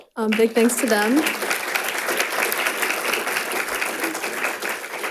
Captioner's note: audience applauding